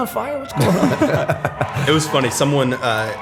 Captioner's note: chuckle